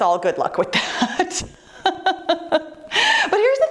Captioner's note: laughing